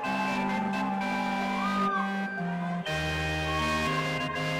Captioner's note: audience cheering